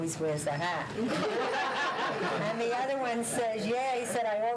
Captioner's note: laughter